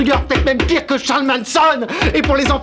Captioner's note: guard tapping on window